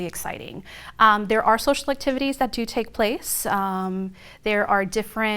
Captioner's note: none